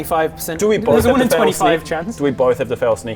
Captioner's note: evil laugh